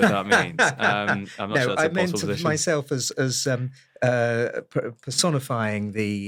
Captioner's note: laugh